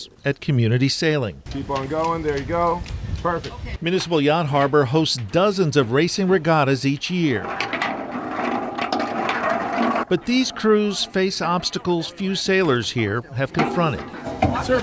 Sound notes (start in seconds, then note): 7.4 walking stick rattling